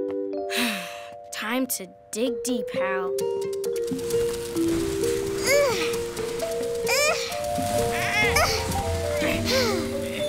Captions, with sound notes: [sighs] Time to dig deep, Hal. [grunting effort]